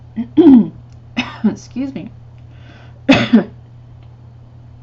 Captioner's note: coughs